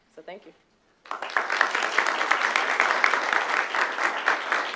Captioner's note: applause